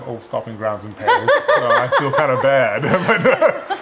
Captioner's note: laughing